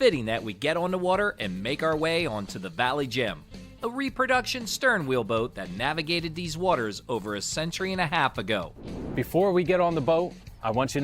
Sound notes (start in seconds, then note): 8.7 air whooshing